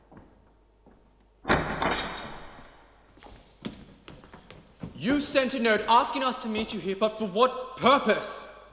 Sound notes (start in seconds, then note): 1.4 metal slide of a door lock being re-latched